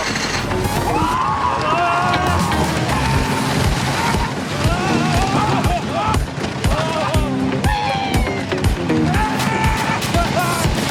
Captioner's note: screams at lighning speed